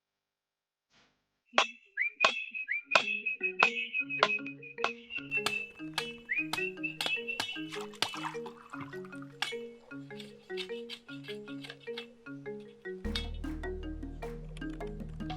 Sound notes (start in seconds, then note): 1.5 whistling; 6.8 water squashing